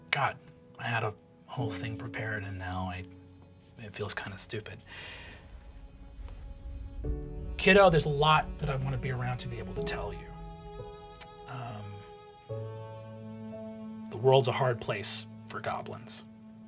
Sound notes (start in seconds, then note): none